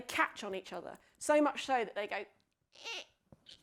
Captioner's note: squeaking